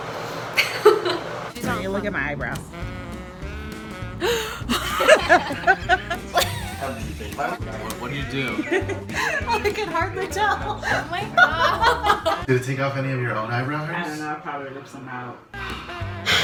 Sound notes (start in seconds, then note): 0.5 laughter; 4.1 gasps; 5.8 laughter